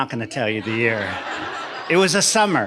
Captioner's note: audience laughing